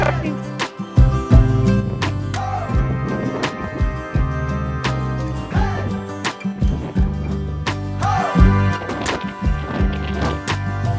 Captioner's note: applause